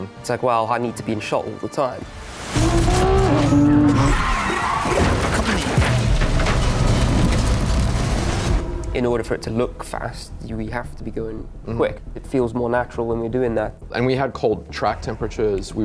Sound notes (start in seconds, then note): 2.5 tires screeching; 2.5 engine revving; 4.6 rocks clattering